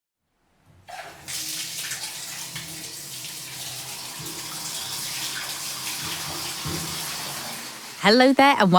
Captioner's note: sound of water running out of taps